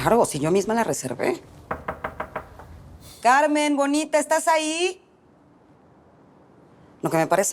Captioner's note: knock on door